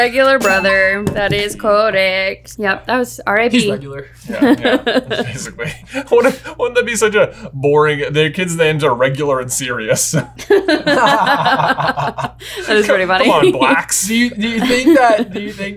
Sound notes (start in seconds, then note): 4.3 laughing; 10.1 everyone laughing amusingly; 10.1 laughing